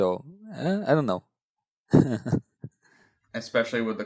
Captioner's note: laughs